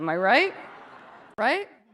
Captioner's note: audience members laugh